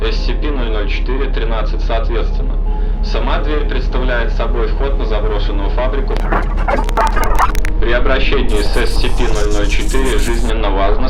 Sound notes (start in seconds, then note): 5.5 static